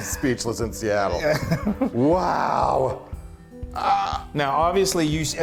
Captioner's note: laugh